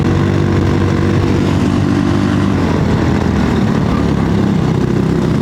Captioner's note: engine noise